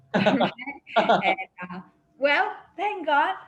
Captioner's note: man laughs